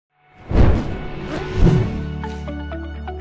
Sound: whooshing; upbeat music

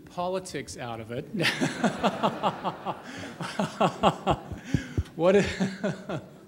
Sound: laughing

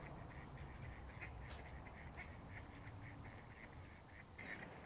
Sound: ducks quack

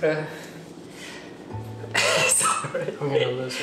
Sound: laughing

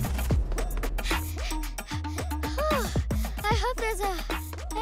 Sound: panting

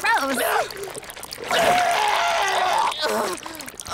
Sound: vomiting

